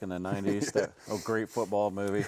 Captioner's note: chuckling